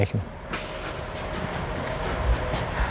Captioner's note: whirring